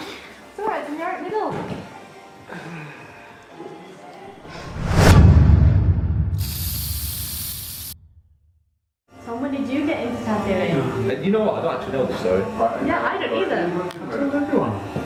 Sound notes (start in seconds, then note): 4.5 metallic cinematic boom; 6.4 spray paint sounds